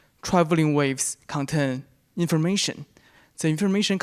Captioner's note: none